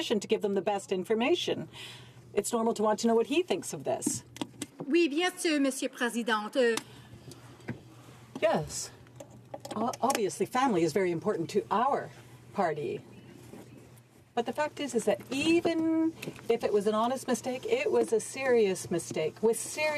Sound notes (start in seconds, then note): 16.9 speaking in french